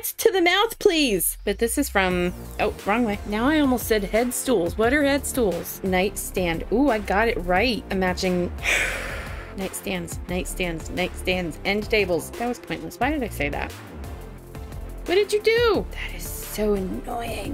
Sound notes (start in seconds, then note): 8.6 sigh